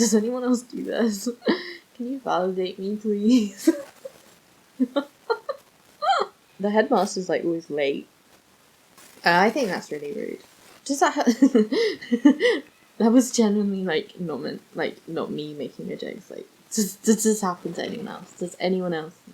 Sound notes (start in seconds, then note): 5.6 sighs